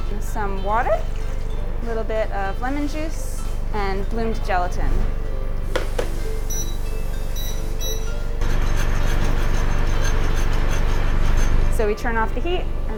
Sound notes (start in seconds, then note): 8.6 whisker screeches